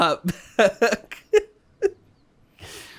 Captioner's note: chuckles